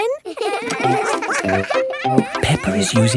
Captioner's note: all giggling